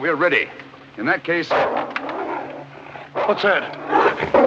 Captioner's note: dog growling